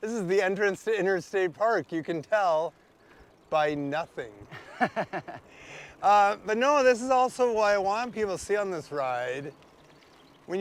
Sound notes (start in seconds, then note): 4.5 laughs